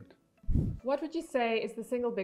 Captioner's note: air whooshing